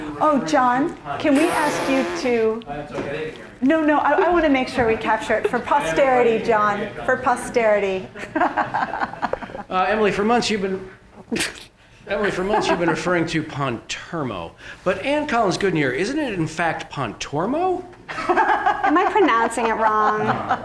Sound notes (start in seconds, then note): 8.9 laughs